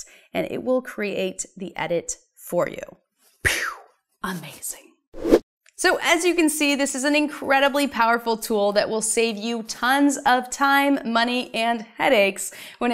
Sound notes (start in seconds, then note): 5.2 air whooshing